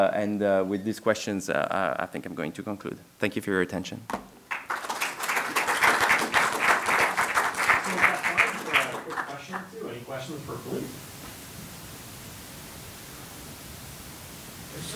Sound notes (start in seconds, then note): 4.4 clapping